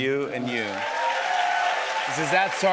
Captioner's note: cheers and applause